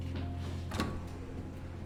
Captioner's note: door opens